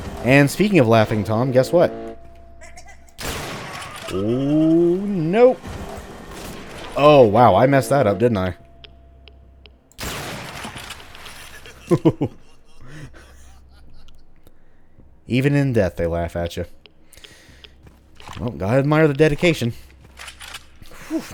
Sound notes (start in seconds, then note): 3.1 musket shot; 10.0 BAM, dying laugh, nervous chuckle